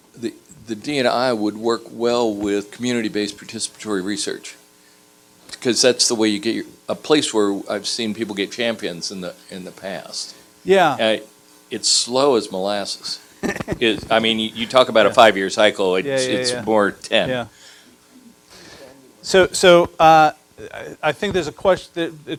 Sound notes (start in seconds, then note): 13.4 laughter